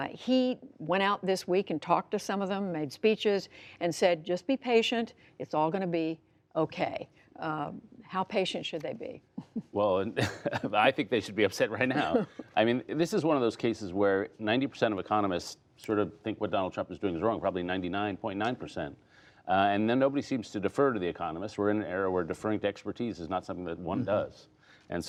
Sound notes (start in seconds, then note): 10.1 laughter